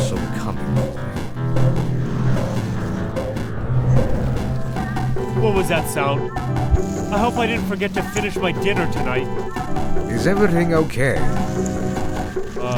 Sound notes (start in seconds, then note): 1.4 animal growls